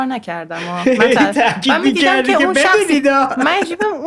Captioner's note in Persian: خنده